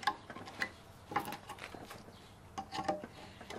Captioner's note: quiet rattling